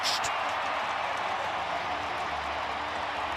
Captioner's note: crowd cheering